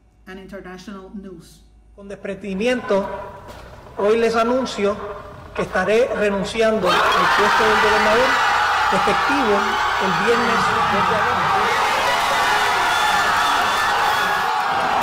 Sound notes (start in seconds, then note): 2.1 speaking foreign language; 7.1 cheering